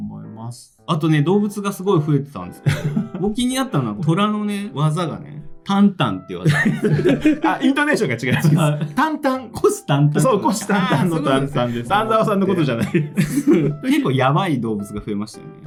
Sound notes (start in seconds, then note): 12.8 laughs